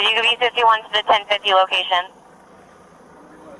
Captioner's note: radio chatter